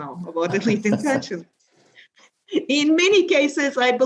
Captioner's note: panelists laughing